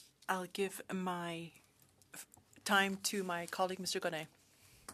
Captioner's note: speaking French